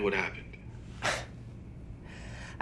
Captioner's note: scoffing